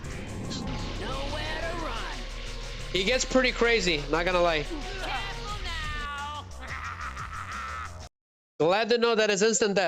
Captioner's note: screaming